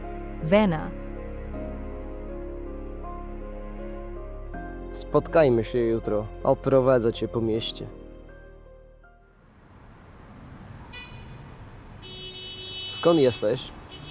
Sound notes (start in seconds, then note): 9.1 city sounds